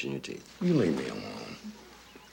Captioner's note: exhales